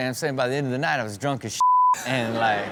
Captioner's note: beep